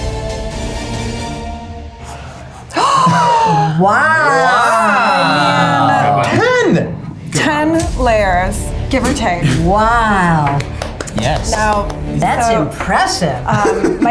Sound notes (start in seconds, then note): 3.6 all gasp